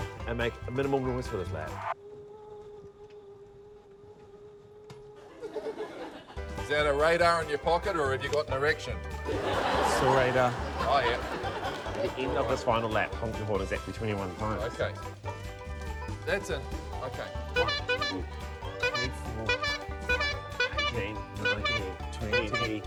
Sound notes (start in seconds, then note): 9.2 laughter; 16.8 toots horn